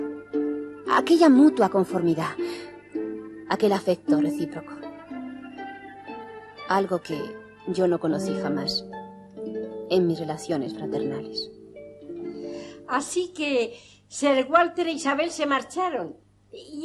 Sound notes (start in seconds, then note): none